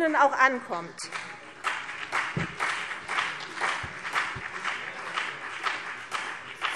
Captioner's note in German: Beifall CDU und BÜNDNIS 90/DIE GRÜNEN